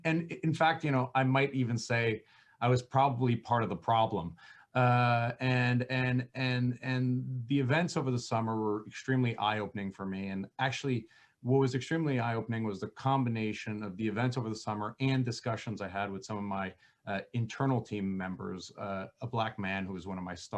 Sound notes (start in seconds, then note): 6.7 stammering